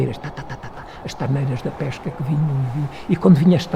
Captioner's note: wind